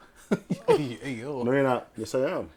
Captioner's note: laughing